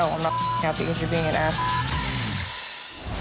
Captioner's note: beep